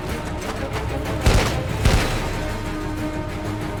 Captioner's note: gunshots